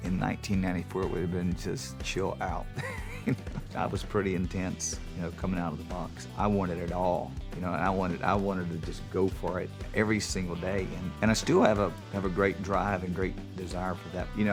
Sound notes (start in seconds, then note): 2.7 laughs